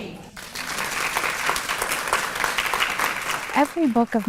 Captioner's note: audience clapping